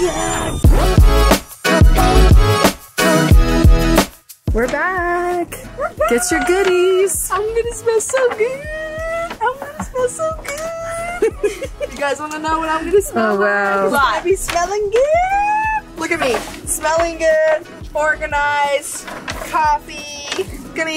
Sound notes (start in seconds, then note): 1.0 upbeat music; 10.5 laughs